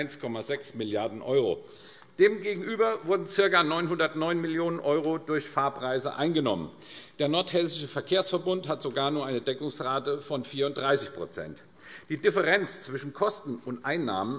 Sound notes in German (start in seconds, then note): none